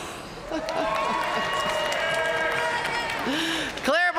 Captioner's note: audience cheering and applauding